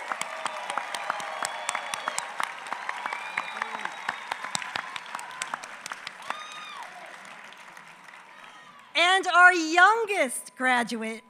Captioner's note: applause